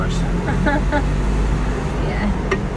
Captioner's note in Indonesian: tertawa